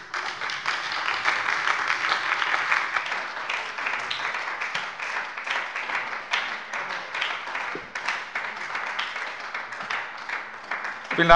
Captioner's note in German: Anhaltender Beifall bei der SPD